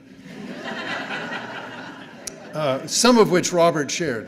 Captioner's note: audience laughing